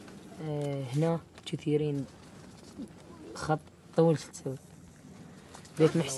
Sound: group speaking in foreign language continues

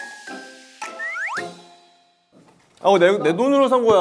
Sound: swoop

